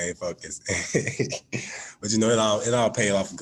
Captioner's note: laughs